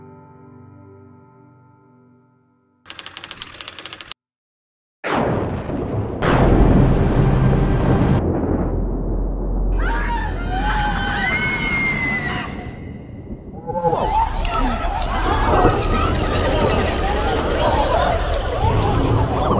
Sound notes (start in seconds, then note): 2.9 typewriter clicking; 5.1 thunder rumbling; 9.7 people screaming; 13.5 cartoonish space-alien noise; 14.1 mechanical cranking